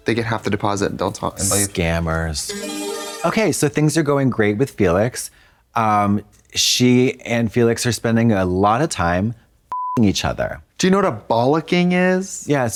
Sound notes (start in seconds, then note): 2.5 bright chime; 9.7 beep